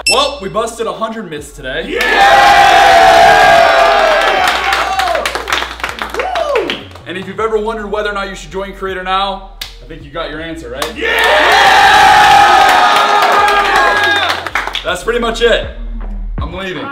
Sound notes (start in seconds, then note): 1.9 collective cheering; 12.9 yelling